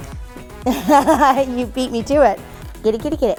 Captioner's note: laughing